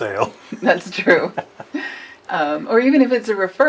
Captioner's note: laughs